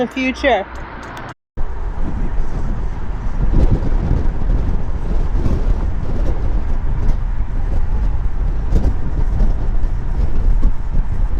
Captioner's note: wind blowing